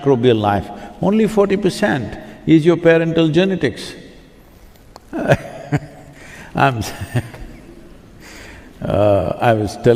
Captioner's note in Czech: smích